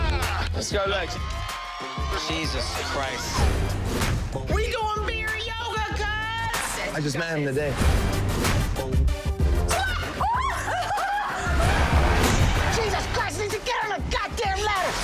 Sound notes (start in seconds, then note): 10.3 laughing nervously